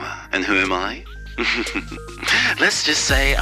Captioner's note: chuckles